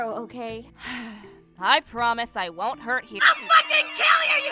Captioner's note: sigh